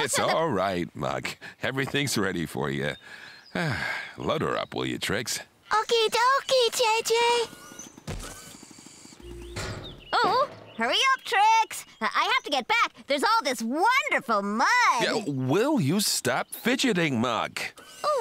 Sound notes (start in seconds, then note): 3.5 sighs